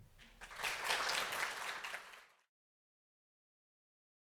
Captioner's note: audience applauds